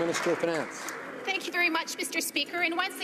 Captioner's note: some Applause